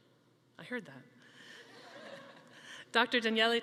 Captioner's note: chuckles